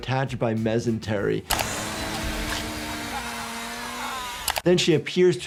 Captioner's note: machine whirs